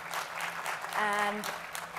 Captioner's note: audience applauds